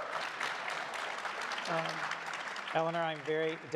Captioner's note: crowd applauding